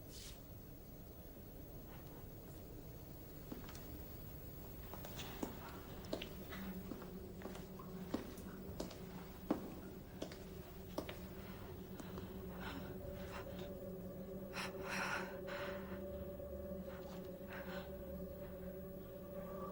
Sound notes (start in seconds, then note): 3.7 footsteps echo; 5.8 eerie music playing; 10.5 Louise breathing hard